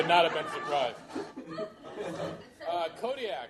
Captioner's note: laughter